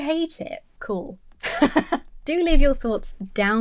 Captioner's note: laughs